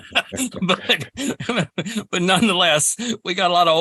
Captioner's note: laughs